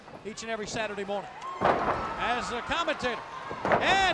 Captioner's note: crowd cheering